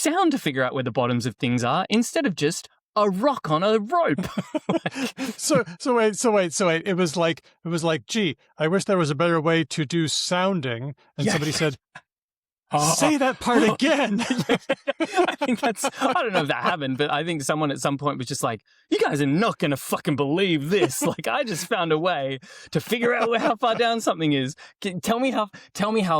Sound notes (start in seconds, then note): 4.1 laughter; 12.9 laughter